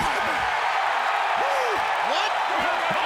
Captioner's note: audience cheering